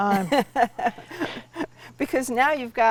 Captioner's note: laughs